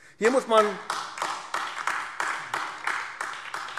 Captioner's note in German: Beifall AfD